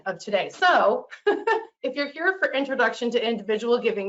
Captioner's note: laughs